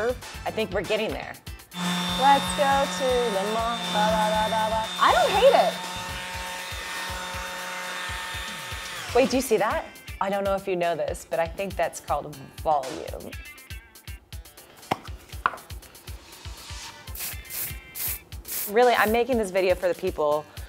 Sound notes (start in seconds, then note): 16.9 whooshing